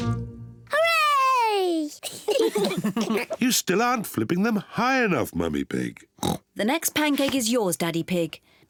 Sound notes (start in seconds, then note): 2.0 kids and mummy pig laugh; 6.2 oinks